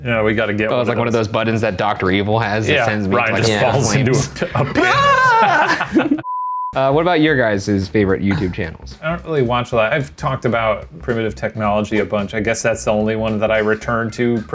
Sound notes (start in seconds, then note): 4.6 screams; 5.6 laughs; 6.2 beep